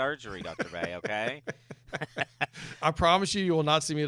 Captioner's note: laughs